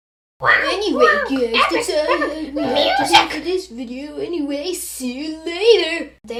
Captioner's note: tv noise